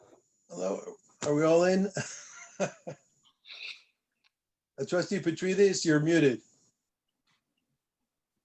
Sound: laughter

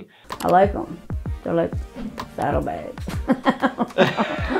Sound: laughs

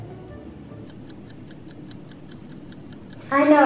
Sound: clock ticking

